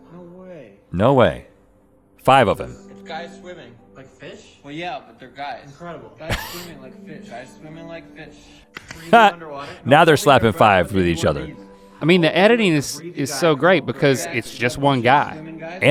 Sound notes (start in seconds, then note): 6.3 Rhett laughing; 8.8 laughs